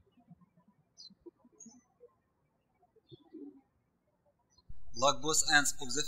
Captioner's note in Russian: птички щебечут